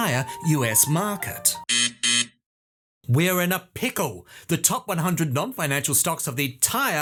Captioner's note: buzzer